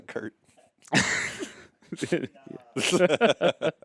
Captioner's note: laughing